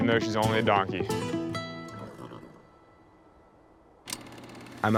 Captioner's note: donkey snorts